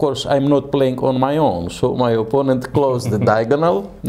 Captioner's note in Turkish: Karşılıklı gülüşmeler